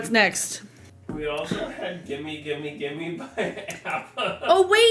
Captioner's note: laughs